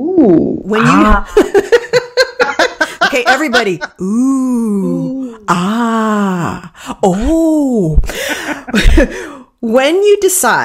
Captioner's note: laughing